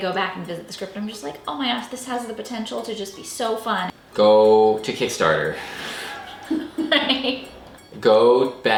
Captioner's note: laugh